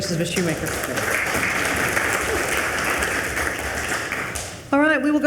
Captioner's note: attendees applauding